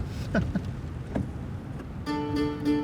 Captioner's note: chuckles